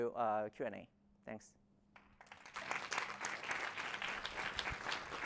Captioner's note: applause